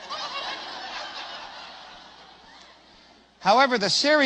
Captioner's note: risate